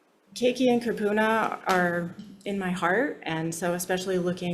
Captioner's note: speaks Hawaiian